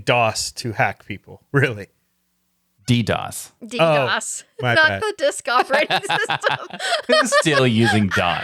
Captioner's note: laughing